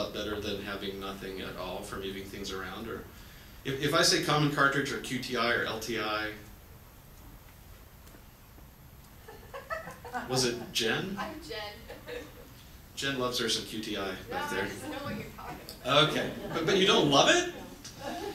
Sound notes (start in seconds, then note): 9.2 woman laughs